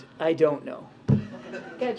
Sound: laughter

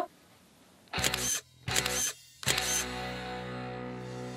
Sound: photo click x3

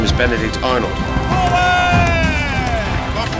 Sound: yelling

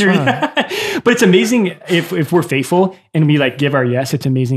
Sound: laughs

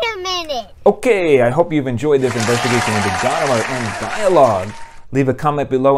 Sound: applause

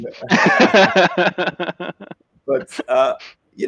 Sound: laughs

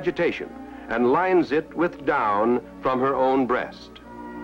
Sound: none

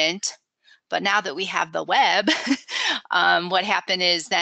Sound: laughs

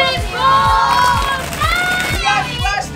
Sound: yelling

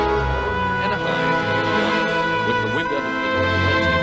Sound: indistinct conversation

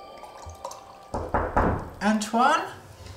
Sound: knocking

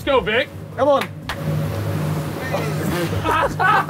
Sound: boat motor whirring; claps; laughing

